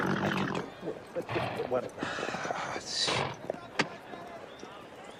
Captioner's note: sighs